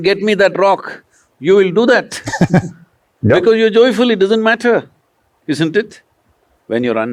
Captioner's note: laughs